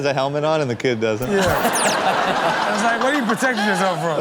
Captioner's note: laughing